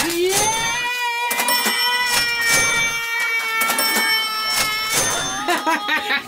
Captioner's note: cash register dinging; laughs